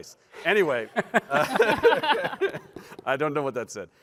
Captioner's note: laughter